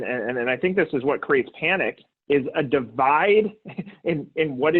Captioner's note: laughs